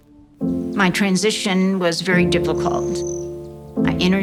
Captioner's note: bird chirping